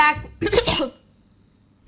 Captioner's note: clears throat, violently